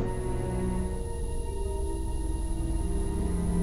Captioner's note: gas continues hissing